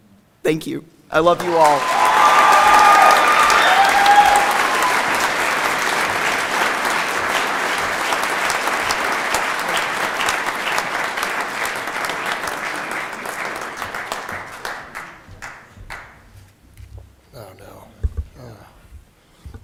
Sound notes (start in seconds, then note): 4.5 cheering and Applause